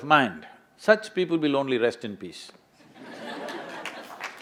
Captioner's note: laughter/Applause; laughs